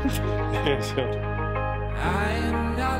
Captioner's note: both chuckle